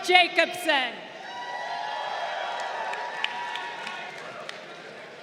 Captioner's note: crowd cheering